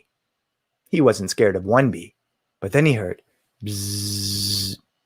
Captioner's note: buzzing